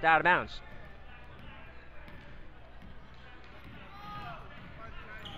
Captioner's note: crowd talking